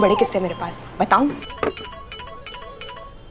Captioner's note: Phone ringing